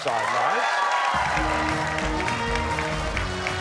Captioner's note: cheers and applause